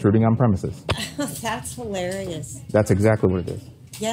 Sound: laugh

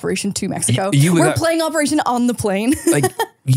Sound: laughs

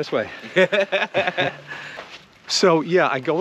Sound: Ron laughing

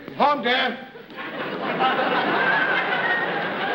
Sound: whistling

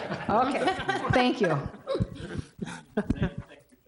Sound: room laughing

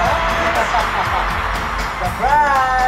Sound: laughing

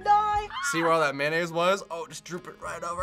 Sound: quiet shriek

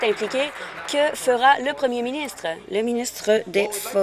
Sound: applause

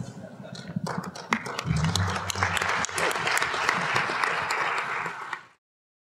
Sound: applause

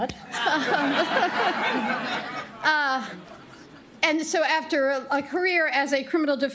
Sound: laughter

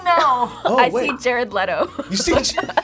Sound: laughs

